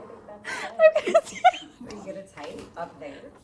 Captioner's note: laughs